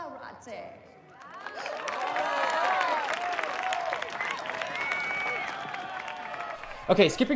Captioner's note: crowd cheering; crowd applauds